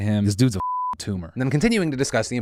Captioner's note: beep